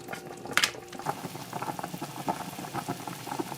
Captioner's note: boiling